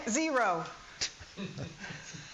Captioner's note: laughing